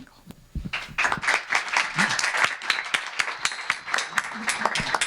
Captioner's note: applause